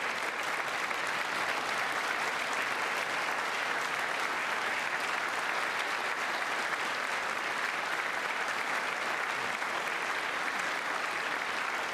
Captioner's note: applause